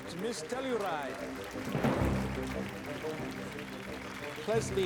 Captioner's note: crowd applauding